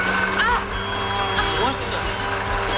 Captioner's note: microwave beeps; blender starts